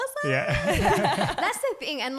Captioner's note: laughing